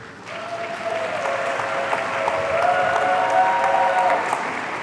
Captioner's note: audience cheering